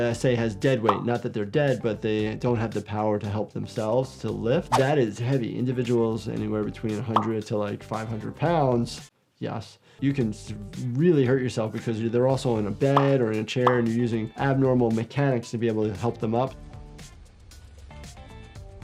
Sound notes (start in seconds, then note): 0.7 graphics popping; 4.7 graphics swishing; 7.0 graphics popping; 12.8 graphics popping